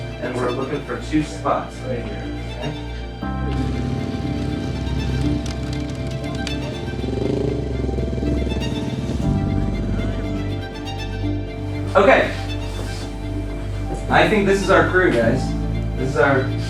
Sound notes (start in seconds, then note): 6.0 tense violin music; 8.0 motorcycle engines